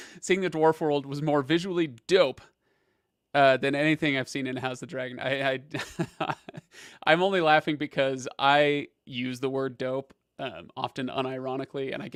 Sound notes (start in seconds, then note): 5.8 laughs